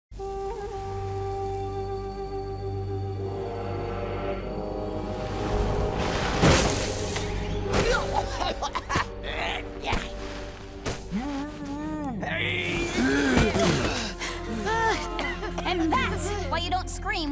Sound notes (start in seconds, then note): 8.1 coughing; 9.2 grunting; 12.7 grunting; 12.9 all gasping and coughing; 12.9 gasping